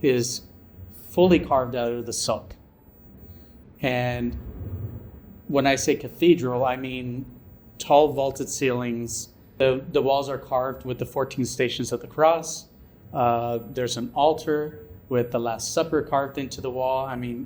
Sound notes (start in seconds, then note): none